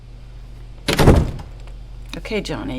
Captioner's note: door slams shut in the background